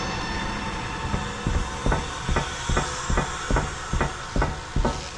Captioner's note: footsteps